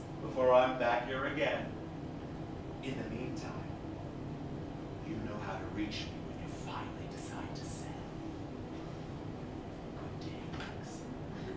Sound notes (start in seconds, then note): 5.0 whispering